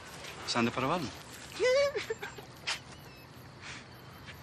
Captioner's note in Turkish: Gülme sesi gelir